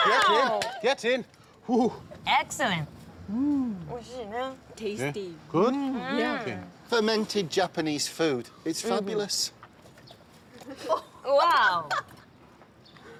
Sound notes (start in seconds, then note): 4.8 woman speaking Japanese; 11.4 woman chuckling